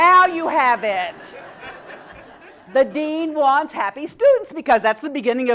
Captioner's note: laugh